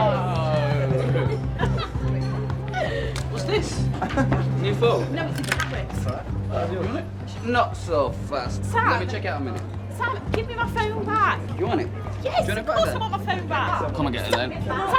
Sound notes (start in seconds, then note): 0.6 indistinct chatter; 0.9 giggling